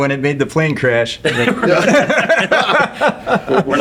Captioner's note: laughing